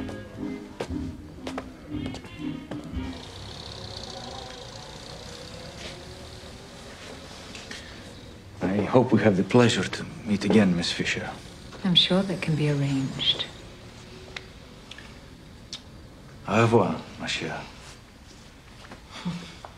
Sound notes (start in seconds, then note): 2.8 car engines rattle in distance